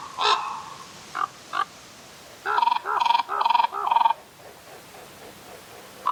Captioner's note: A raven calling in a forest; other ravens answer; wingbeats of ravens overhead